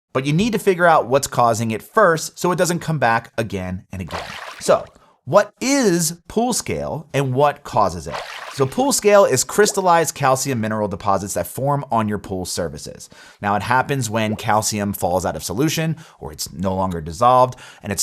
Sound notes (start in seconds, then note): 4.0 graphics splash; 7.9 graphics splash